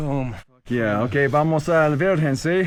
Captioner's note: foreign language